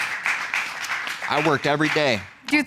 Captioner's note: audience applauds